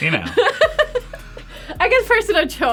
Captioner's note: laughs